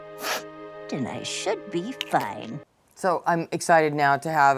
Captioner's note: spray bottle hissing